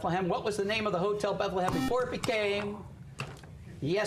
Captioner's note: buzzer